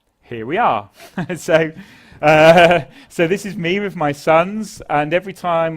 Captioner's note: laugh